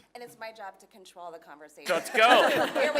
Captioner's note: laugh